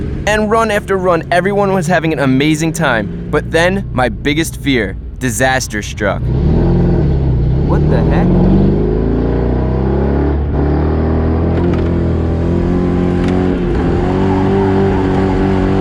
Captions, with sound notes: And run after run, everyone was having an amazing time. But then my biggest fear; Disaster struck. [Engine revving, doesn't sound right] What the heck?